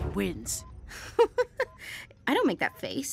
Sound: laughs

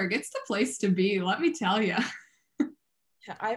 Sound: laughs

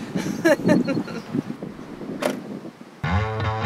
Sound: laughs; upbeat guitar music

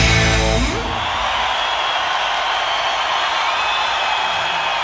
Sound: crowd cheers

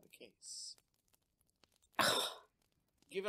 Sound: Mrs. Snape makes an affronted noise

